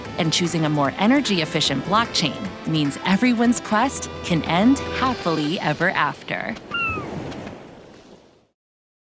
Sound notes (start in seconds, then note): 6.6 bird squawking